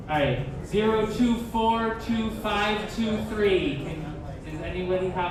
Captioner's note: none